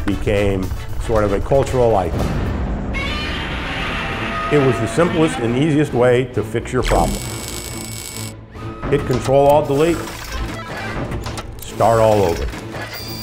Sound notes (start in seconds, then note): 2.5 exploding; 3.0 screeching